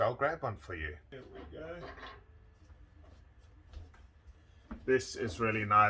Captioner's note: gentle clattering